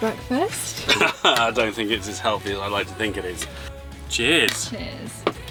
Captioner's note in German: lacht